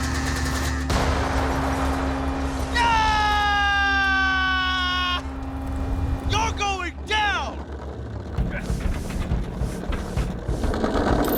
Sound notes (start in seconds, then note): 0.8 bike exploding; 8.4 dramatic music